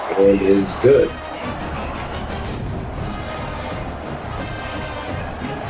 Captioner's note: crowd Noises